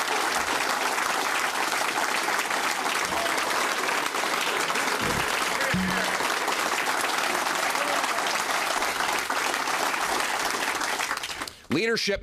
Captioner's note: cheering